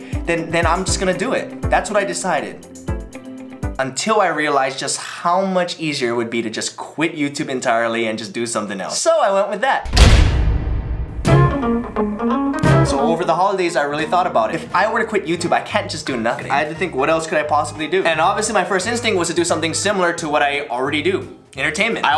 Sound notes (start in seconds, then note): 9.8 slam